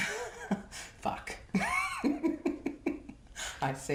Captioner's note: laughs